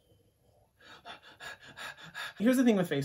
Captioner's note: breaths heavily